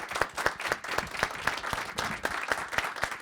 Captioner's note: applause